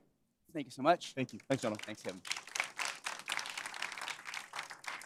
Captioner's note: applause